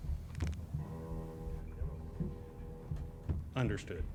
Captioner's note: back cracking